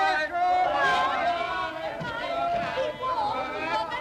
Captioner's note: crowd shout goodbyes